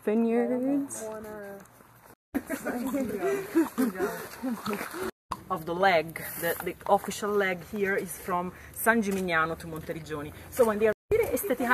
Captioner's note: sounds of exploring and hiking